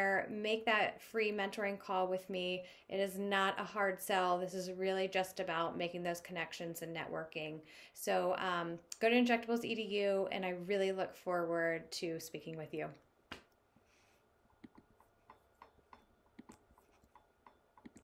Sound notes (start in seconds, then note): 14.5 keyboard keys clicking